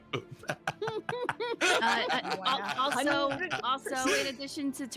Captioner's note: group laughing